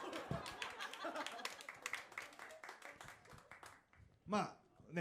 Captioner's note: audience laughs